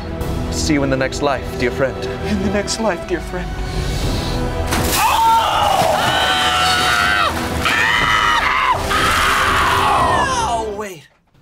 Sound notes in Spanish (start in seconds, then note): 5.0 gritos de dolor de sopa